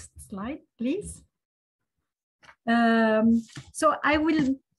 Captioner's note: pages turn